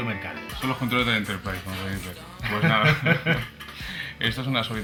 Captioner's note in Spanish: laughs